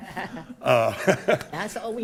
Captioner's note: attendees laughing; laughing